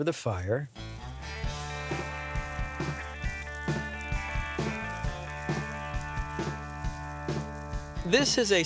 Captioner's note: sizzling